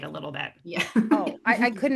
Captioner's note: laughs